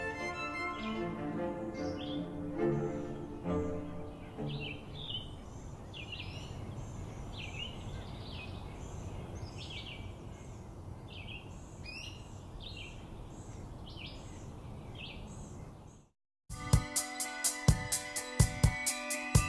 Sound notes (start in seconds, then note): 3.8 birds singing